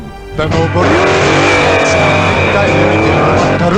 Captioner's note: car revving